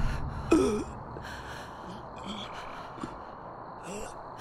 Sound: Benny gasps

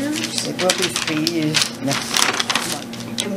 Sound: papers rustling

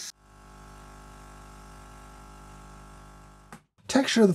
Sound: milk hissing; coffee machine humming

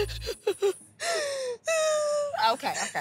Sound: whimpers; cries

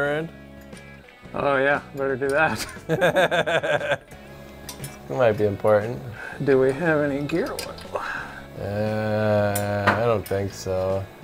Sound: laughs

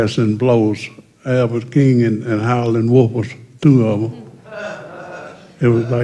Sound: laughter

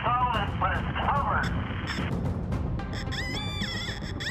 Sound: metal detector squealing

